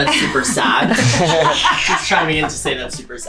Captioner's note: all laughing